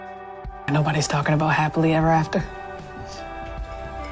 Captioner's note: voiceover